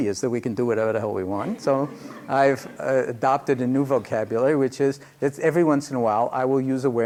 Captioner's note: laughter